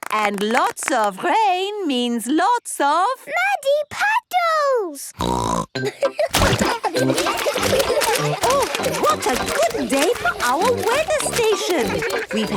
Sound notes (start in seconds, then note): 5.1 snorting; 5.8 laughter